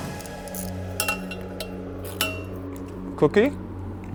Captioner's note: tool clangs